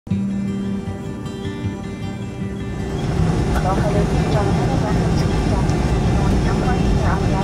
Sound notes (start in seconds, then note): 0.1 soft music; 2.6 plane engine